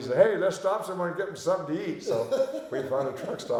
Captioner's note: laughing